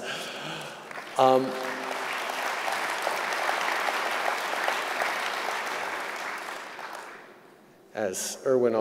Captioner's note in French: Applaudissements